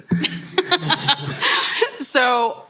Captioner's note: laughter